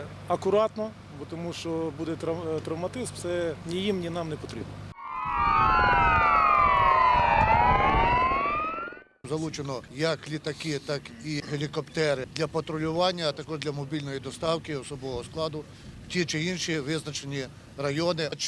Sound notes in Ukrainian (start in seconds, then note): 4.9 звук сирени